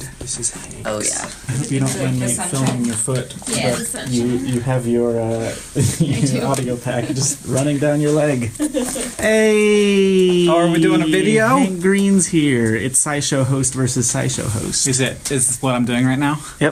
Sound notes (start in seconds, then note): 3.5 background talking; 5.5 laughs; 6.1 laughing; 8.5 laughs